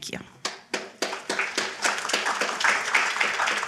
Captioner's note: applause